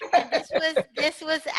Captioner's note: laugh